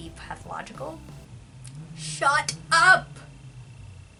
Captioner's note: revving engine in background